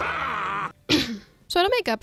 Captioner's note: clears throat